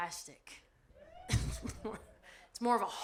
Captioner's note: audience laughs